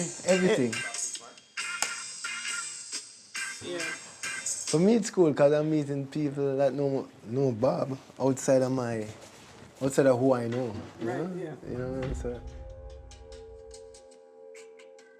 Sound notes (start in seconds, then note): 0.0 reggae music; 11.9 gong sound; 14.1 reggae music